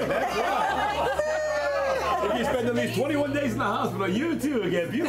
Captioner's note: group cheering and laughing